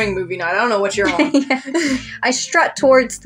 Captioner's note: laugh; chuckle